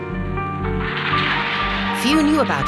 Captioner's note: audience applauds